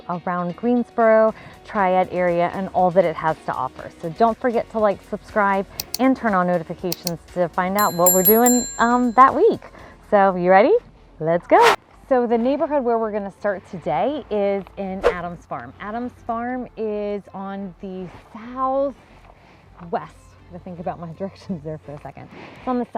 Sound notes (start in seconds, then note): 5.8 cursor clicking; 7.8 bell dinging